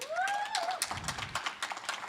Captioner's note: applause